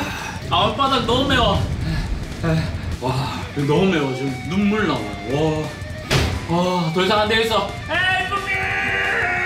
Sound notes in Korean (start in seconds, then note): 6.0 탕!